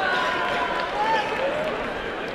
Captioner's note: applause and cheering